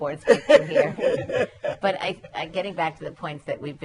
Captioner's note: laughter